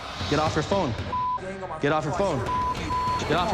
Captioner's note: beep